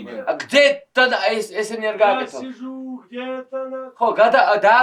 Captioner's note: speak in Georgian